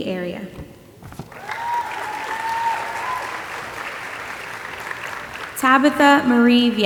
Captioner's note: audience applauding and cheering